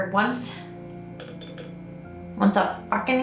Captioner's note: clinking